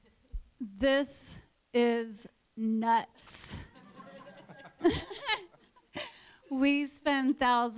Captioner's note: laughter